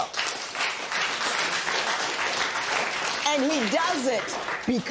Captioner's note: applause